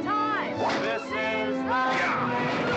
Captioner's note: cracking whip; crack